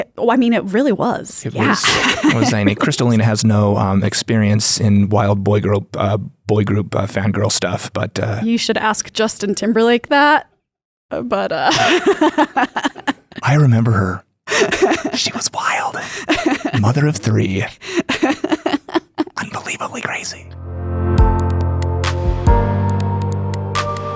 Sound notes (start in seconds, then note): 11.5 laughs; 20.4 gentle uprising music